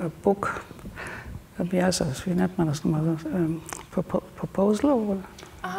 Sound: speaks German

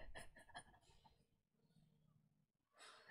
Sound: laughs

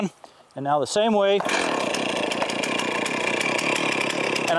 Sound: chainsaw starts

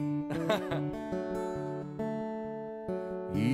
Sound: laughs

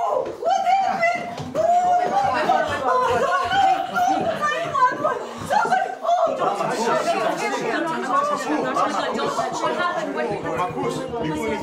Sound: everyone panicking

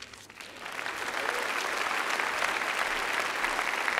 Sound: applause

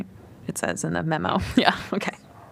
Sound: laughter

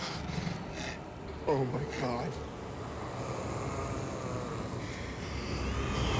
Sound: zombies snarling

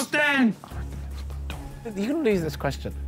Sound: Simon whispering

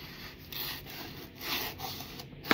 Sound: knife Pierces Tape

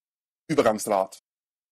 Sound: fast Pronunciation

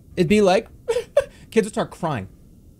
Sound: crying sounds

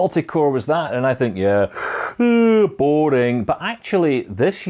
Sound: mimics yawning

